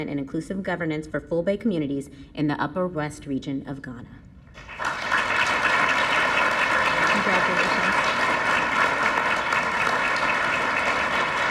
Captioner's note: applause